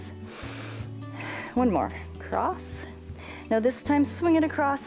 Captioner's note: inhales and exhales